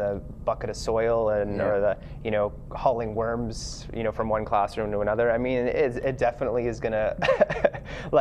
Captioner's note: laughter